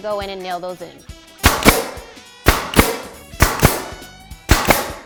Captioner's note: nail gun fires